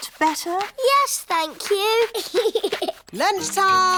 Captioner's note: giggles